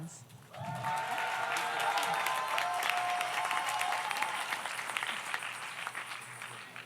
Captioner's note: audience cheers; audience applauds